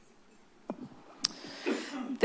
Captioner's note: clicks tongue